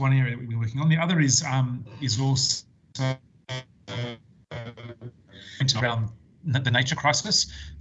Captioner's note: audio distorts